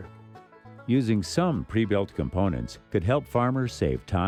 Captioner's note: voiceover